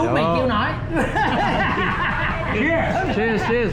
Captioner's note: laughter